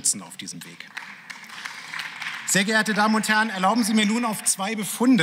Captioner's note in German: Beifall